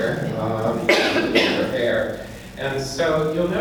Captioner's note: coughing drowns out speaker